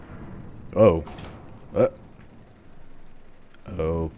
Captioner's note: door opens